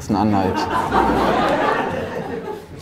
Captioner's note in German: Lachen